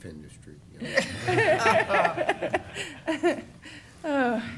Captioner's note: laughter